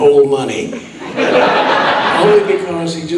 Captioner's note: audience laughing